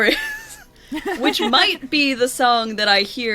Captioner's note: laughs